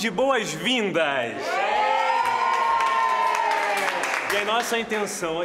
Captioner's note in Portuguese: aplausos